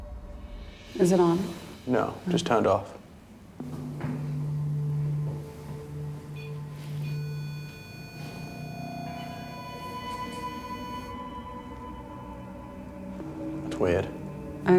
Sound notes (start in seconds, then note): 6.2 beeping; 9.4 ominous music